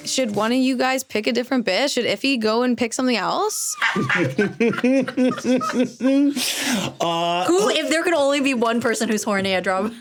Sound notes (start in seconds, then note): 3.8 laughing